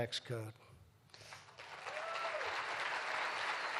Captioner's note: applause